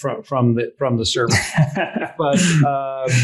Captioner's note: laughing